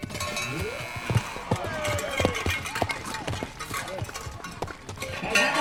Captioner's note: buzzer